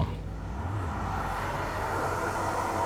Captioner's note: hairdryer blowing